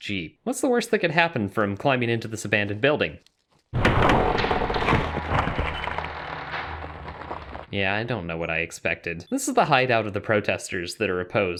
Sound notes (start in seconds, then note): 3.7 crash